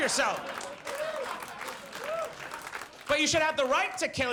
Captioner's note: audience laughs